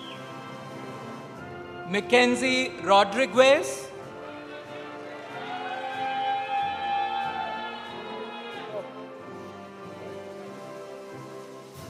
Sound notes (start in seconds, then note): 4.2 audience applauding; 4.4 audience cheering